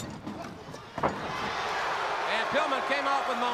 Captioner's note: crowd cheering